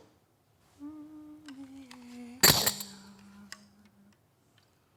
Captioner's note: humming